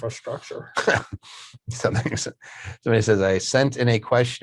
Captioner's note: laughs